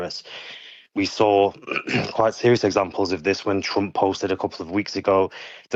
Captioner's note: clears throat